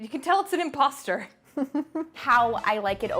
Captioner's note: chuckles